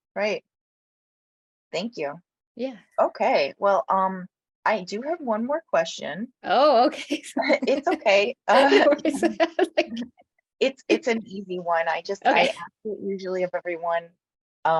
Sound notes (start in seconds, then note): 8.5 laughs, caught by surprise